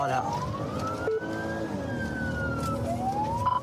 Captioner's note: siren blares